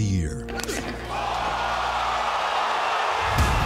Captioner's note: crowd cheering